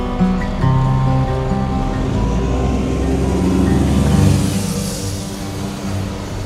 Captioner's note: bus pulling away